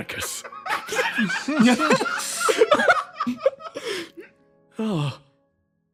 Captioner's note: laughs